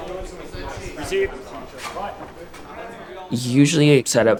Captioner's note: crew chatters